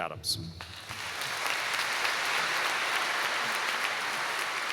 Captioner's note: applause